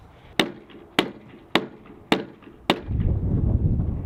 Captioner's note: hammering